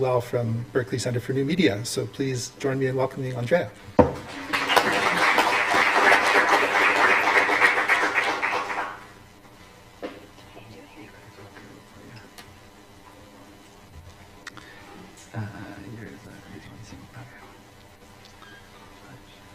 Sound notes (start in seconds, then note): 4.2 applause